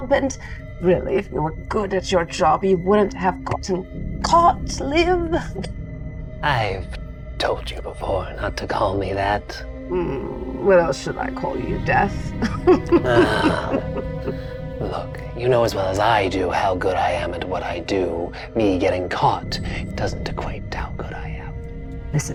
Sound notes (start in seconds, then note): 12.4 chuckles; 12.4 sighs